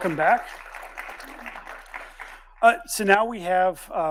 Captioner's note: audience applauding